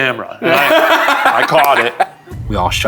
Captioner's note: laughing